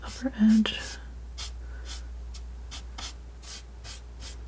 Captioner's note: scratching